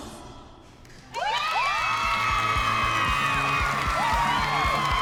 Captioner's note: applause